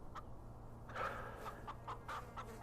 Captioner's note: Dutch sighing